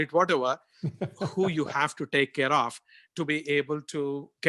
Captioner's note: laugh